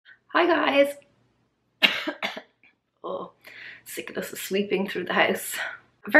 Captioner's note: coughs